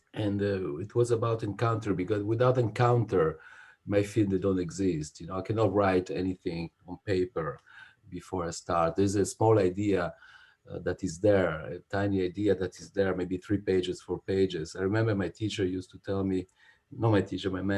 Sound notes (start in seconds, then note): none